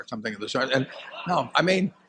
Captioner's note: laughter